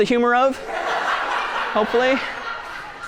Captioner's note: laughing